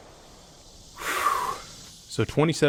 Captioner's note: exhales